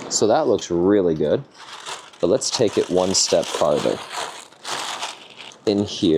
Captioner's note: paper crumpling